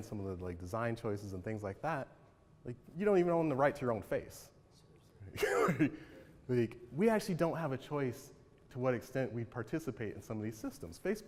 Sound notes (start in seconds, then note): 5.4 chuckles